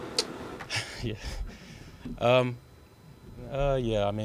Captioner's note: laughing